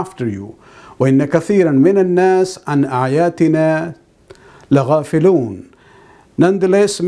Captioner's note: arabic